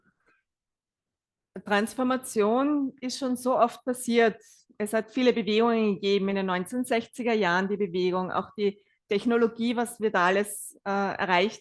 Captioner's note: German live translation